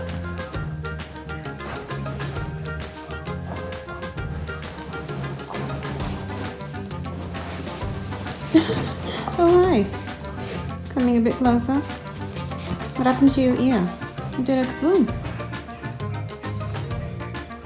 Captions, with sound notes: *laughs* oh hi. coming a bit closer? what happened to your ear? it did a kaboom.